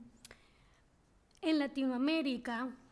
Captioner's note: speaking spanish